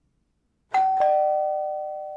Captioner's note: door Bell Ring